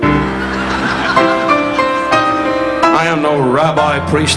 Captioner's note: audience laughing; dramatic upbeat piano music